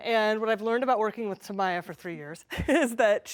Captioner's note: chuckles